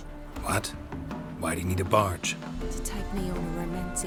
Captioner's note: surprised; wistfully